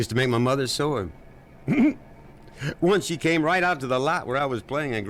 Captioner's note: chuckles